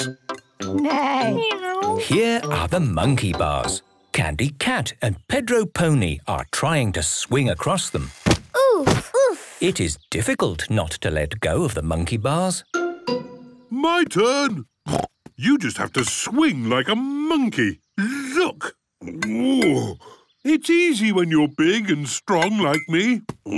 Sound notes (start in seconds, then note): 14.9 snorts; 19.0 grunts